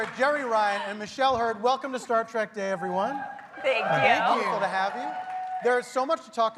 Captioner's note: laughs